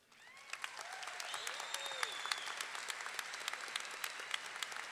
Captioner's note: audience clapping; audience cheering